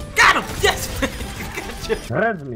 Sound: laughs

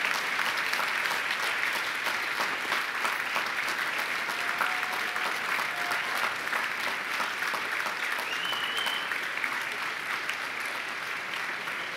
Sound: applause

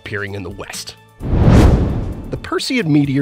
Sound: meteor whooshes

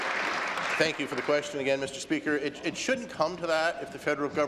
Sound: applause

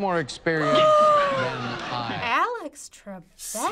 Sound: gasping

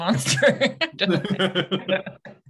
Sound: laughter

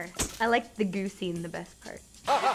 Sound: horn sound effect

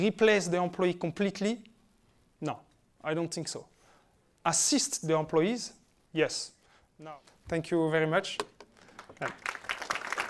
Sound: applause

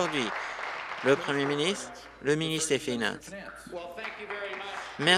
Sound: applause

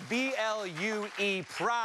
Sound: cheers and applause

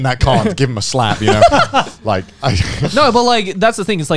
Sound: laughing

